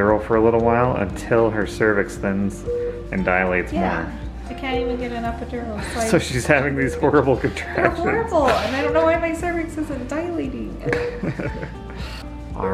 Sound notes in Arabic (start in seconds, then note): 7.1 يضحك; 10.8 يضحك